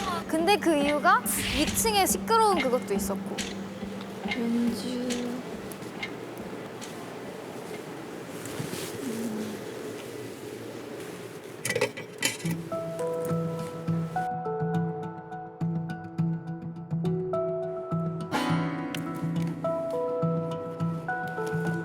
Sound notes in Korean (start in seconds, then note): 11.6 달그락